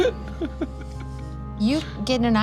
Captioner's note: laughs